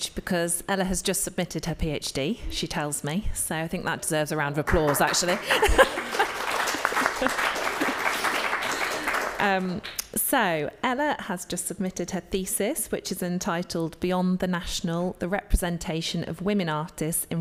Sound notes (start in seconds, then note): 4.6 audience applauding; 4.8 laughs